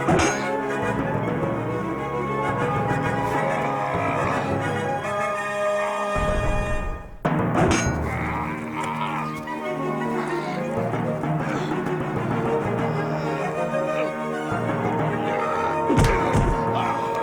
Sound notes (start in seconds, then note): 7.0 dramatic orchestral music; 7.6 metal clanging; 10.6 grunting; 15.9 thuds